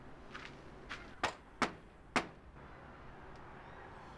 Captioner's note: knocks